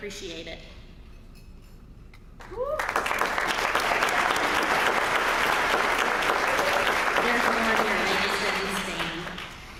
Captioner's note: applause